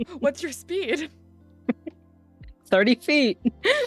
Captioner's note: laughing